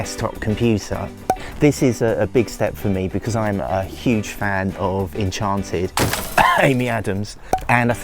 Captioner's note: cough!